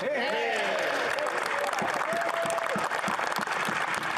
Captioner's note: applause